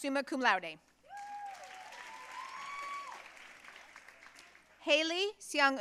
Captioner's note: audience cheering and applauding